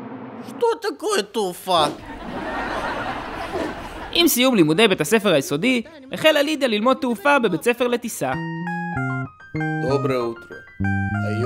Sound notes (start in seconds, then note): 1.9 cue canned laughter